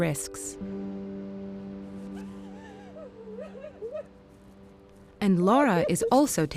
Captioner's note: muffled wailing